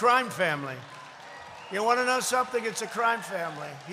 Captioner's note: applause